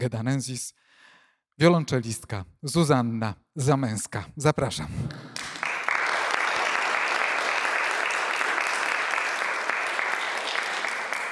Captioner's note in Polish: Aplauz